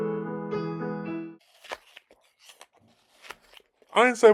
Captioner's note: munching on apple